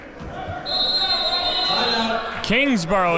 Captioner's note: whistle blows